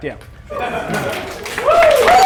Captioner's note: laughter; applause